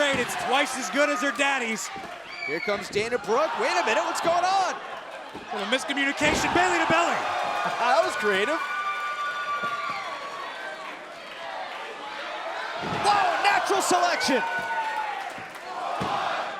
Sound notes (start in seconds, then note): 8.8 crowd cheering